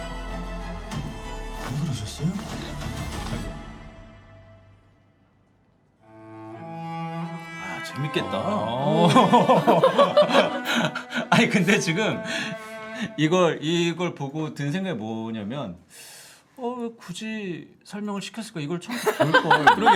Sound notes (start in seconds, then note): 8.8 laughing